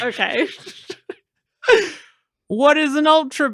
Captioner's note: laughter